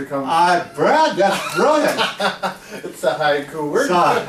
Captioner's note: laughing